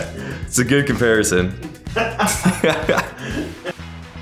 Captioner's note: laughing